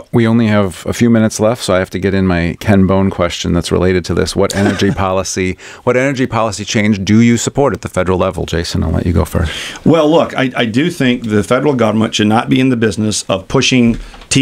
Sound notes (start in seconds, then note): 4.4 LEWIS laughs